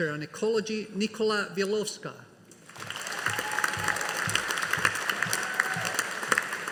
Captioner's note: audience applauding